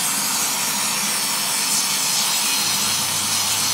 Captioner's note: loud hissing and hissing